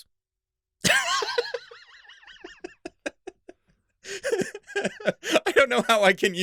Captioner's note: laughter